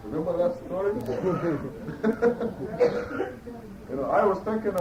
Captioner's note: laughter